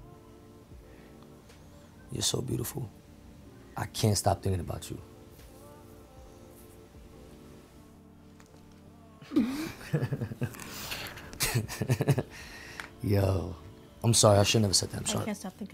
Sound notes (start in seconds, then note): 9.2 laughs